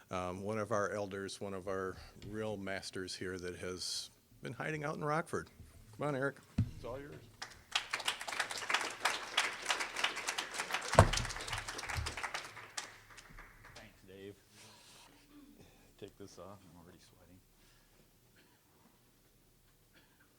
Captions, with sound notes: ONE OF OUR ELDERS, ONE OF OUR REAL MASTERS HERE THAT HAS BEEN HIDING OUT IN ROCKFORD. COME ON, ERIC, IT'S ALL YOURS. (applause) >> THANKS, DAVE. TAKE THIS OFF-- I'M ALREADY SWEATING.